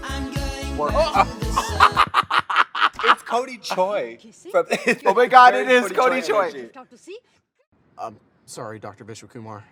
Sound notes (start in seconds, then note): 0.9 drag queens laughing